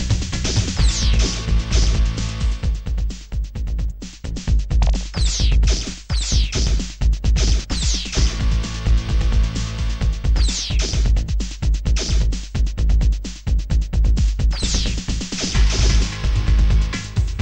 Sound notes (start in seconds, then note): none